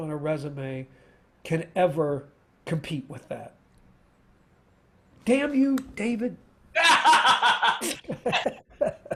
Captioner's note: laughter